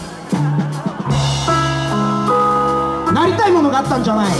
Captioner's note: audience laughs